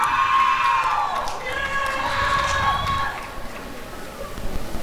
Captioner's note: applause and cheering